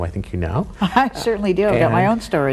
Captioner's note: laughs